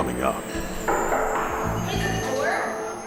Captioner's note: knuckles knocking